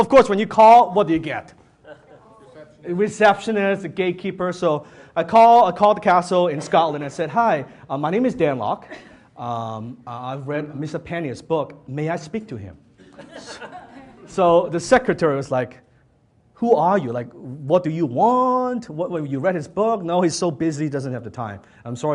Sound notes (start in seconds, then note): 13.1 audience laughs